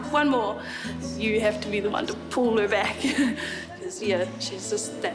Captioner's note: chuckles